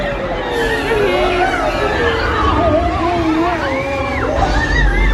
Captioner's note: tornado whooshing; Minnie and Mickey shrieking